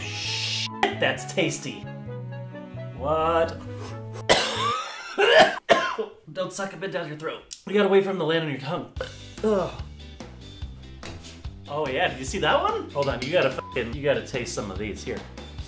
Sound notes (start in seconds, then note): 4.2 coughs; 9.0 burps